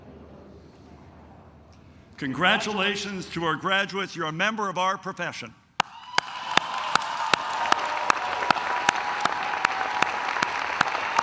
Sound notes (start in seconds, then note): 5.8 claps; 5.8 cheers